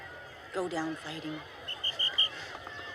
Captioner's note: whistle blows